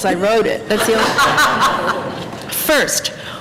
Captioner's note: laughter